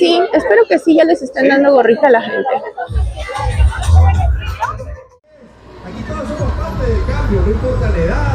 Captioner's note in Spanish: risas